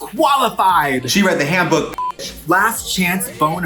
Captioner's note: beep